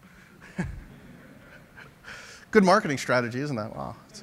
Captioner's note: laughter